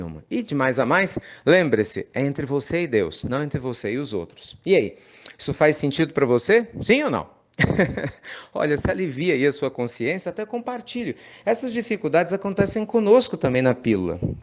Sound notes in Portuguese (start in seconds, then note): 7.6 Risos